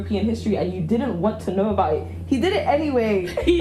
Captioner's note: jajaja